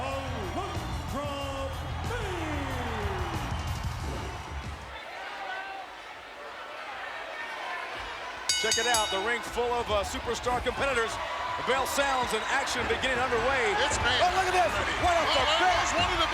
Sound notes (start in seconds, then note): 3.1 crowd cheering; 8.5 bell ringing